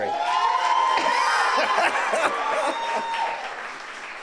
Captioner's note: audience cheers